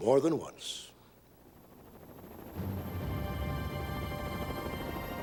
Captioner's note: rotating chopper blades